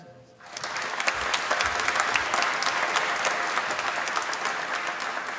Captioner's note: applause